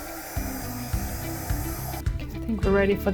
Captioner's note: blow dryer blowing; light upbeat music